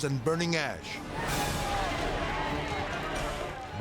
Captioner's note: intense dramatic music; firefighters shouting